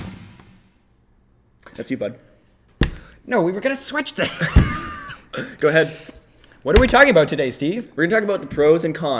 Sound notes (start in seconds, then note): 4.2 laughs